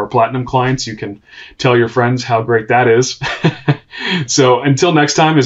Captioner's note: chuckles